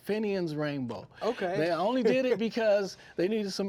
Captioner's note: chuckling